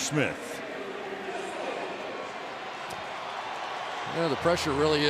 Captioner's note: pa announcement